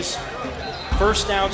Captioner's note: crowd Noise